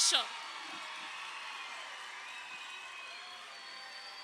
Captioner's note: crowd cheering